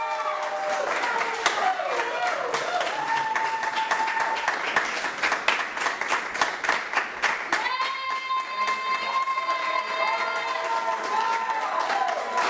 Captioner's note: cheers and applause